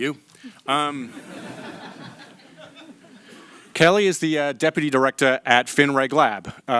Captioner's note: laughter